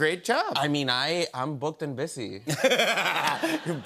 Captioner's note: laughter